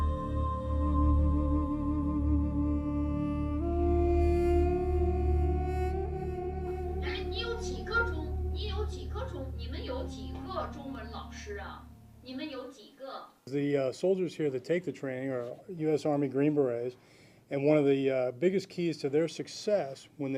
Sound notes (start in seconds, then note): 7.2 speaking in Chinese